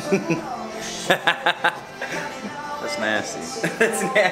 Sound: laughs

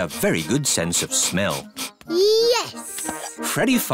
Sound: sniffs

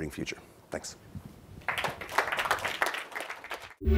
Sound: applause

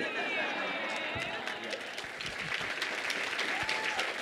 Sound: applause

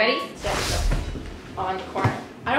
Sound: whooshing

